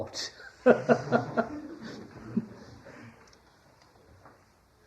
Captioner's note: laughter